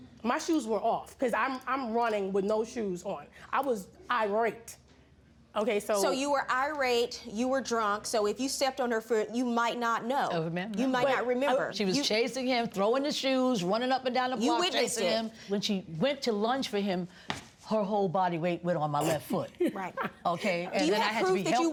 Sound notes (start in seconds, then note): 17.5 laughing